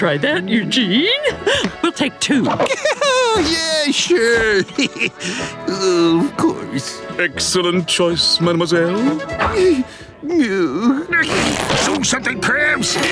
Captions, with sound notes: Oh, yes! We must try that, Eugene. We'll take two. [laughs nervously] Yeah, sure. [chuckles] Of course. Excellent choice, mademoiselle. [moans]